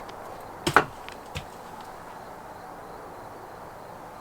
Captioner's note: rock thuds